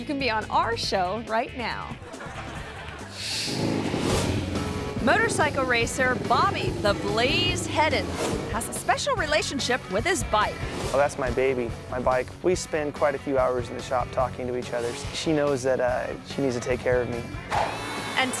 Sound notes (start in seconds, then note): 1.9 audience laughs; 3.3 motorcycle revs